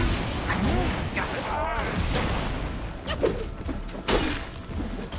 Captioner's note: weapons whooshing and exploding